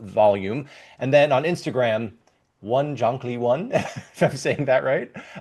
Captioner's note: laughs